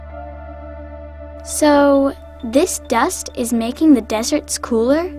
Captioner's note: voiceover